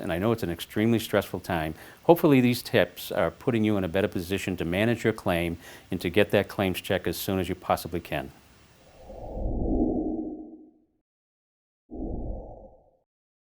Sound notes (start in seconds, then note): 8.9 woosh sounds begin